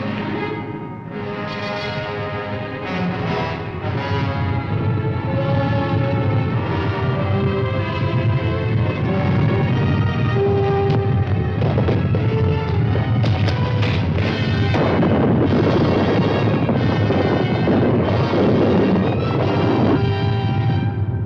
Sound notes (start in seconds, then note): 0.2 dramatic orchestral music; 4.4 volcano rumbling; 11.9 rocks rumbling; 15.1 volcano booms